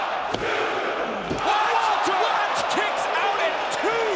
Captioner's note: crowd cheering